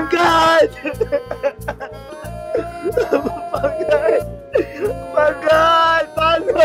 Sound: crying

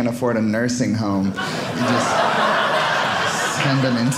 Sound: audience laughing

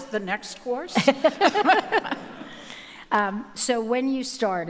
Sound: audience laughing

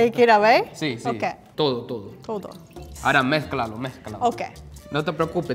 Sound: speaking in foreign language

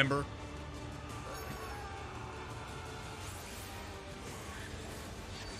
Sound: characters screaming

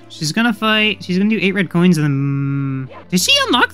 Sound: none

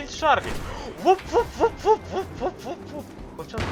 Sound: Zoitberg sound

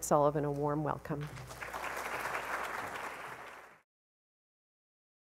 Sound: applause

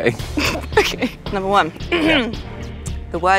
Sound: giggles; clears throat

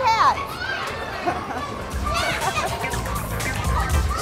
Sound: laughter

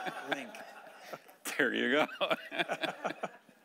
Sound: laughing

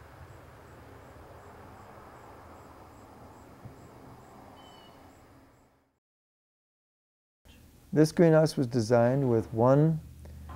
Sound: silence

